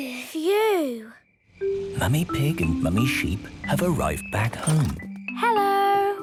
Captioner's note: whispering